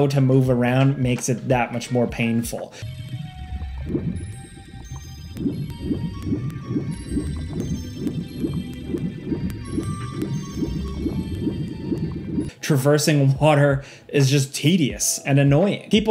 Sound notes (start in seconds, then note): 2.8 water gurgling; 3.0 gentle instrumental music